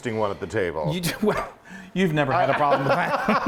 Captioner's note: scoffing